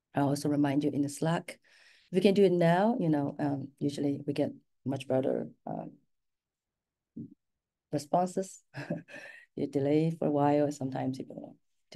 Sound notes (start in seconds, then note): 7.2 laughs